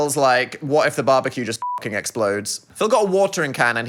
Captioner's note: beep